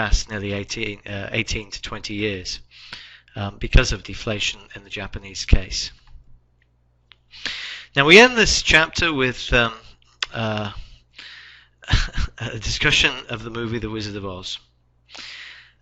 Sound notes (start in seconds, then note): 11.8 chuckles